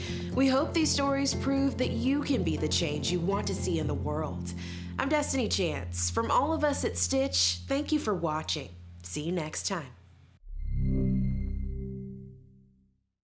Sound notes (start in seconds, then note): 10.4 electronic transitional tone